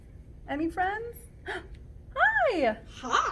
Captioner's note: gasp